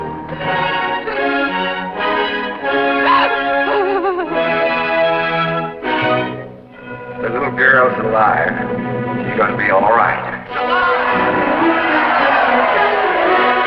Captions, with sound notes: [Crying] The little girl's alive, she's going to be all right.